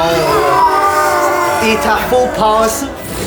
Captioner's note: war cries